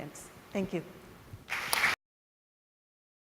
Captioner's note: applause